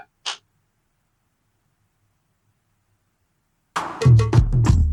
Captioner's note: awkward silence